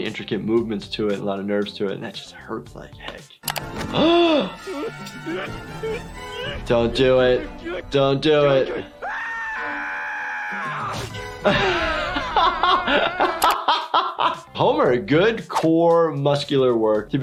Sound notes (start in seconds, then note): 3.9 gasps; 8.9 screaming; 11.4 laughing